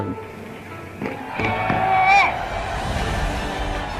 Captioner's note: crowd cheers